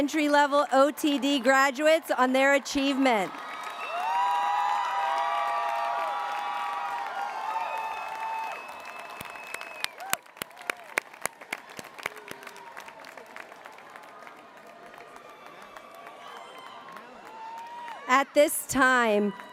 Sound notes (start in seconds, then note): 3.0 applause